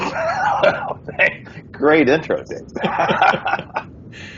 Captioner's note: laughs; laughing